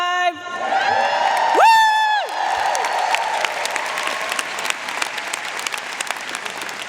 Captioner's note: audience and cheering and applauding